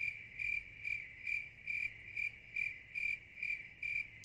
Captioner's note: crickets chirping